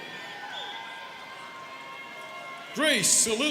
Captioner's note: students cheering